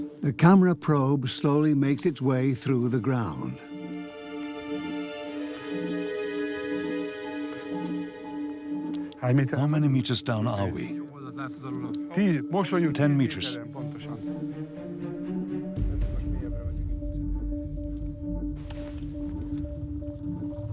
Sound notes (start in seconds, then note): 12.8 man, dubbed in English; 15.8 speaks Hungarian